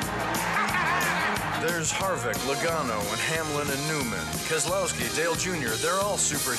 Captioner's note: laugh